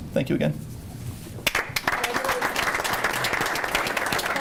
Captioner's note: group applauds